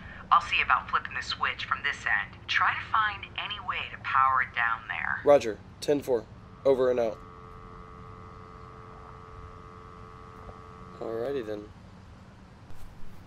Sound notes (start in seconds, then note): 6.5 dial tone